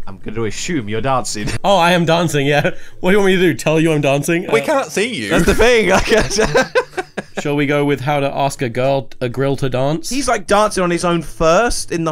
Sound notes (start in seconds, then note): 5.2 laughs